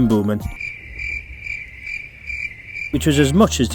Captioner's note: crickets in background